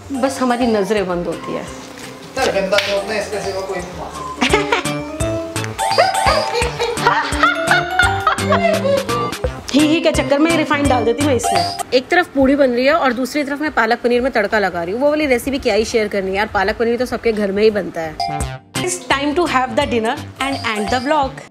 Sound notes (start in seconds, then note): 5.8 both laughing